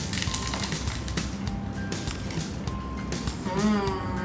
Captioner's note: cone crunches